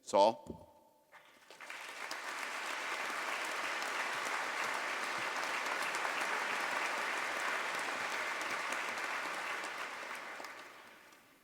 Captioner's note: applause